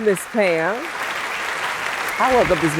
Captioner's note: applause